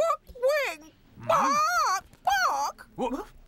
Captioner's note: squawks